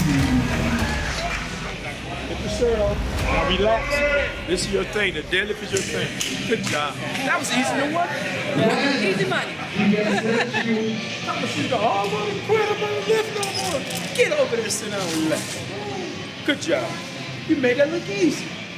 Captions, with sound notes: -Keep your shirt on. Now relax. This is your thing. The deadlift is your thing. Good job. That was easy. Don't worry about it. -Easy money. [ Laughs ] -She goes, "Oh, I'm gonna quit. I'm not gonna lift no more." Get over there and sit down and relax. Good job. You made that look easy.